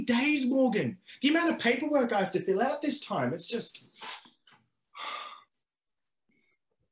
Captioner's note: sighs